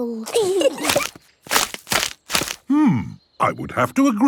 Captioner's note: kids giggling; crackling